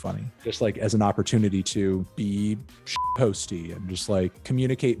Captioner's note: beep